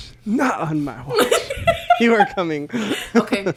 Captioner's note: laughs